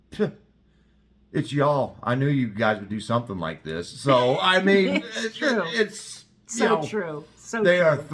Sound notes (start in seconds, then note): 4.1 laugh